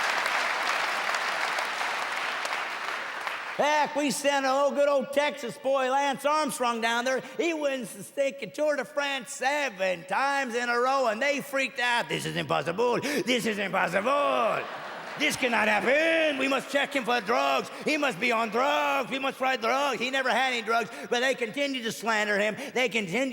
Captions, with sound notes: [loud applause] Heck, we send a good old Texas boy, Lance Armstrong down there. He wins the Tour de France 7 times in a row! And they freaked out. [imitating French accent] This is impossible, this is impossible. [laughter] This cannot happen! We must check him for drugs. He must be on drugs.